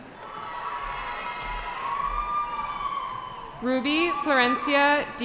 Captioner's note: cheering